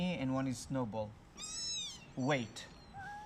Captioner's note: kitten mews